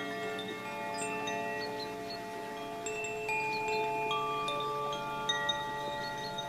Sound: water babbling; bells lightly chiming

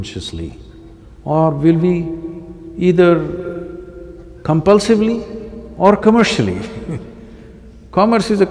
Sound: laughs

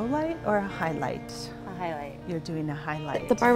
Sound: instructor and student talking

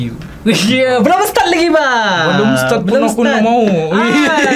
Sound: laughs

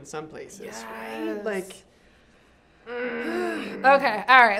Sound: growls

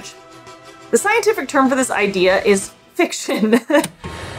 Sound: background music; laughs; background music

